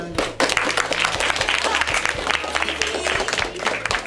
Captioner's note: applauding